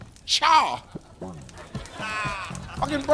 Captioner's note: audience laughing